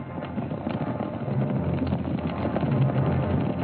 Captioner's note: horses galloping